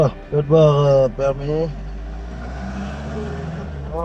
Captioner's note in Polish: rozmowa w j. francuskim